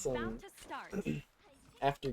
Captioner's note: ahem